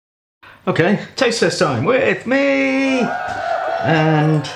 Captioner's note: cheerin